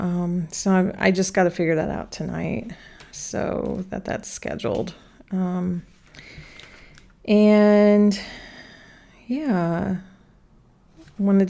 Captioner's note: sighs and gasps